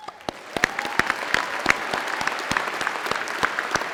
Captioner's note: applause